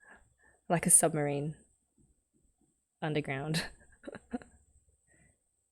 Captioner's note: laughs